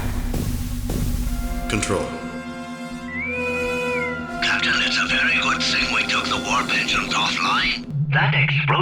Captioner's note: intercom Whistle